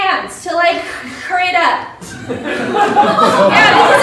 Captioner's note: laughter